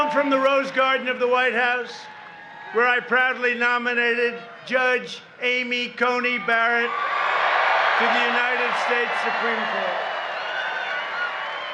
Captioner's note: cheering